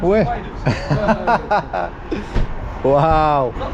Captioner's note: laughs